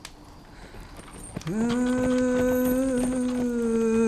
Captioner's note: distant cart rattles